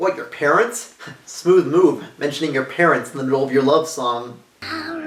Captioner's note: scoffs